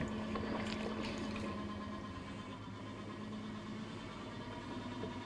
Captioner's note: potter wheel whirring